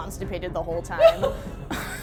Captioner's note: laughs